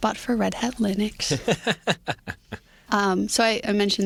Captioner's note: laughter